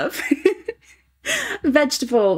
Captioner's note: laughing